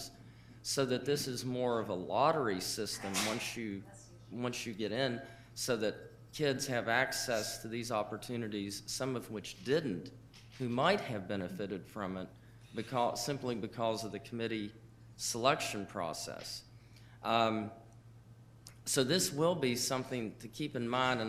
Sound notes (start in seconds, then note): 3.0 man sneezing